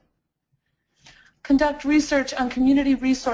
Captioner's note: voiceover; voiceover